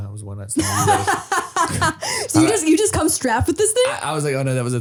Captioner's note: laughing